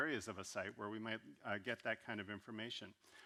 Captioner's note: none